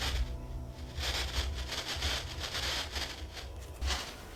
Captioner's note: spirit box static